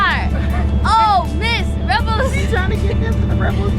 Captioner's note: laughing